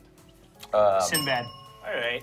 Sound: bell dings

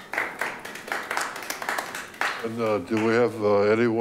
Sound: light applause

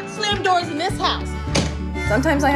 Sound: door slams

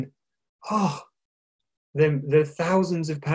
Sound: sighing

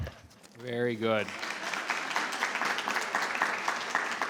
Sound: applause

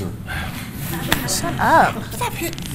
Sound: class laughing

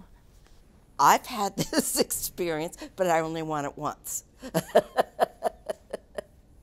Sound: laughing

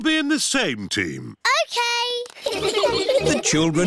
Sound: all giggling

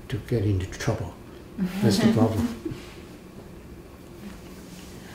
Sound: laugh

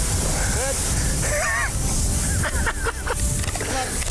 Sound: laughs

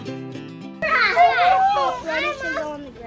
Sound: children chattering excitedly

